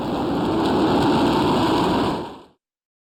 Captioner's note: wind